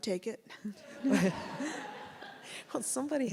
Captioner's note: audience laughs